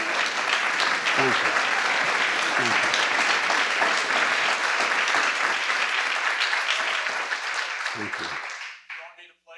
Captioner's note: applause